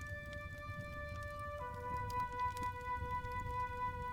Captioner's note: fire crackling